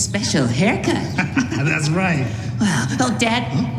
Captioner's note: laughs